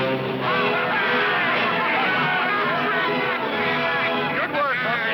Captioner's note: lively music; men cheering